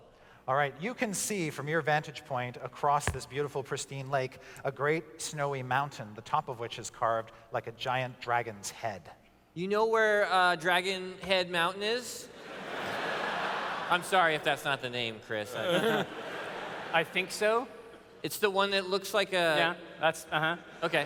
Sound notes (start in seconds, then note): 12.4 laughter